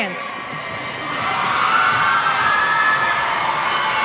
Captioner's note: cheers